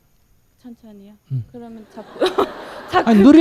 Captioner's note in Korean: 청중/질문자 웃음